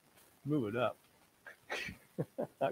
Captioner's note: laughs